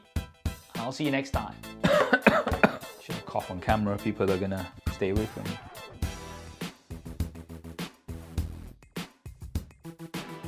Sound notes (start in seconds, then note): 1.8 coughs; 6.0 upbeat music